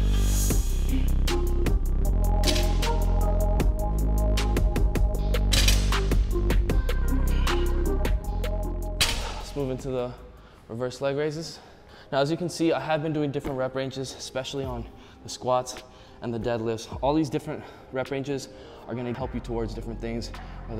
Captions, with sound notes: (metal clanking) (hiphop music) (metal clanking) Let's move into the reverse leg raises. Now, as you can see, I have been doing different rep ranges, especially on, the squats and the deadlifts. All these different rep ranges, are going to help you towards different things,